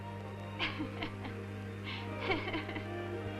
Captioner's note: laughing